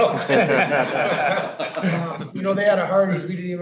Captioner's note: all laughing